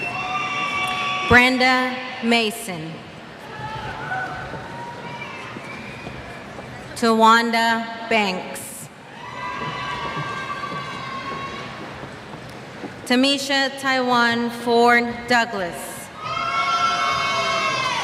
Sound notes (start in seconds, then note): 3.4 cheers; 9.1 cheers